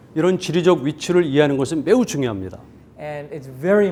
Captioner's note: speaking in Korean